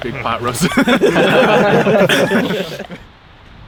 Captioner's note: all laugh